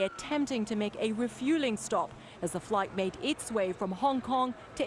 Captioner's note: sirens